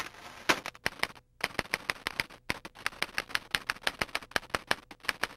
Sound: typewriter clacking

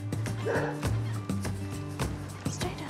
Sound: dog barks

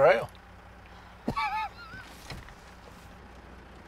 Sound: laughing

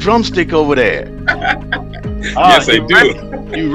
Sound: laughing

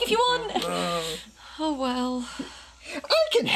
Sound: sighing; Igor groaning

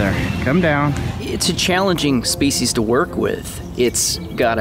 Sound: voiceover

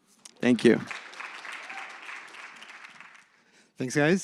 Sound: applause

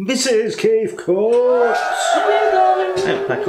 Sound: delirious cheering

